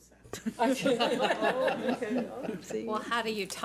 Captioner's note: board members laugh